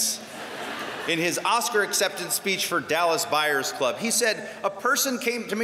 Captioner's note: laughter